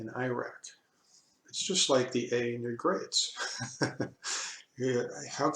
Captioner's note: laughing